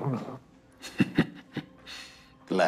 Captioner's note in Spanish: Risa contenida